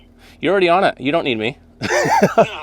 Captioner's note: laughs